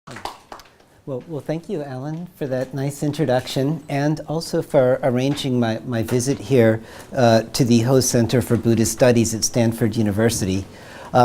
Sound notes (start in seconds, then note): 0.0 audience applauding